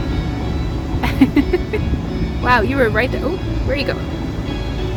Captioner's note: laugh